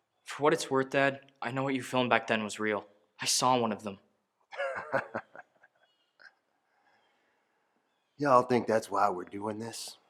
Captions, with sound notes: For what it's worth, dad, I know what you filmed back then was real. I saw one of them. (laughing) Y'all think that's why we're doing this?